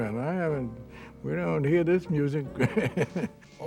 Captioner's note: laughs